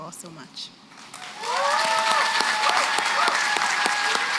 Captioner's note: applause